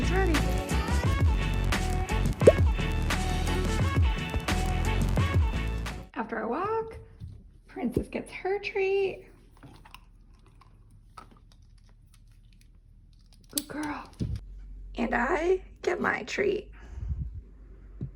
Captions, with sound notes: I guess she's ready. (bright upbeat music) After our walk, Princess gets her treat, (crackles) Good girl. And I get my treat.